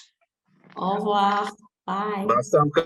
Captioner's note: speaking french